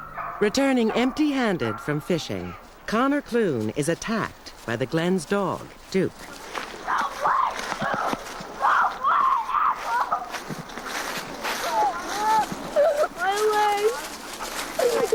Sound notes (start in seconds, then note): 8.6 screaming; 11.6 crying